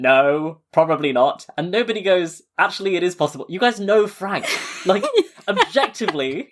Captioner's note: laughing